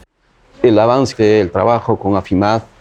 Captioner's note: speaking spanish